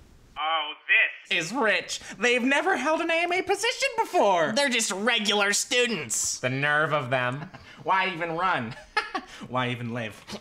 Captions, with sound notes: Oh, this is rich! They've never held an AMA position before! They're just regular students! The nerve of them. Why even run? [laughs] Why even live?